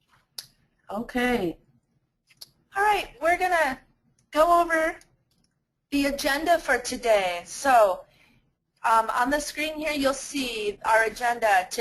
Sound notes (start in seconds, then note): 0.8 voiceover